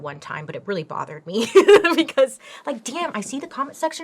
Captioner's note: laughs